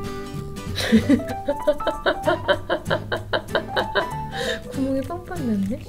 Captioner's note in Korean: 웃음 소리